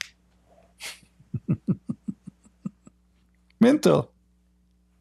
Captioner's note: Ketawa